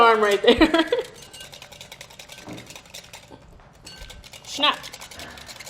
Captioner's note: whisk hitting glass bowl quickly